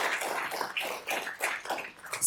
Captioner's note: applause